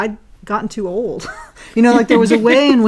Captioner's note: laugh